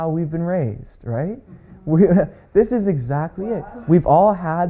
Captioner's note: laughs